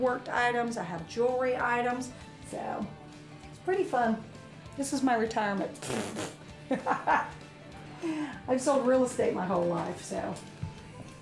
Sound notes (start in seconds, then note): 6.6 chuckles